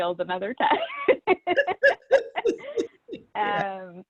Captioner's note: laughs; laughing